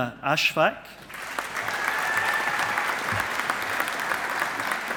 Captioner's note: audience applauding